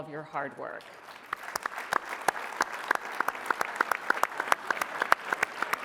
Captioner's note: applause